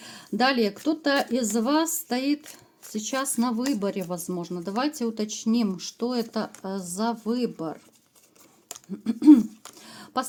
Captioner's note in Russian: откашливается